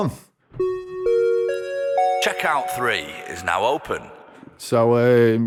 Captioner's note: chime